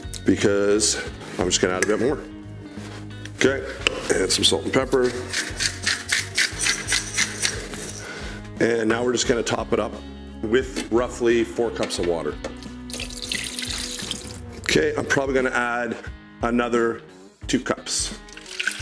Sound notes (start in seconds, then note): 4.8 grinding salt; 12.8 pours water